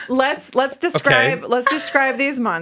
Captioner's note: laughing